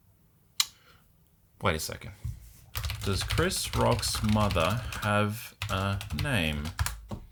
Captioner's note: typing